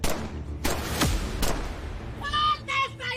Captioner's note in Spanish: Disparos